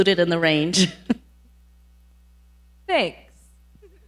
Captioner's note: laughs